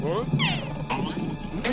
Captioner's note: boink; boing